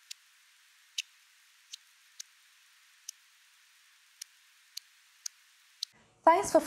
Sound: click, click, click

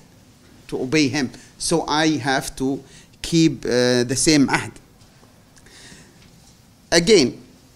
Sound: non-english; non-english

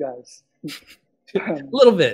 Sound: laughs

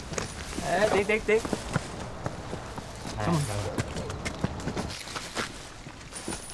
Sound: vendor speaks in foreign language

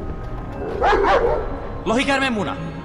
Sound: K-9 bark

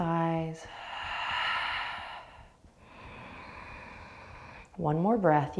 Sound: exhaling and inhaling

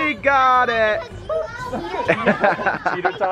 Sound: laughing

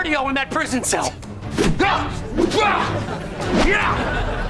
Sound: grunting

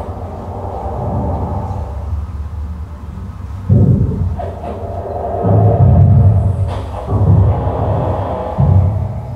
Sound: waves gently washing

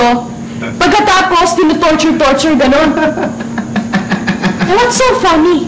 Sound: chuckles

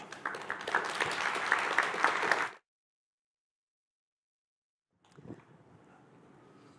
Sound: applause

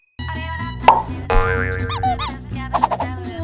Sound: Gekko popping; Owlette popping; Chase squeaking

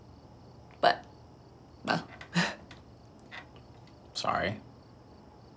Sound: chuckles

